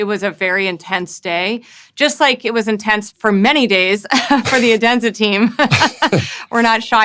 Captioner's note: laughs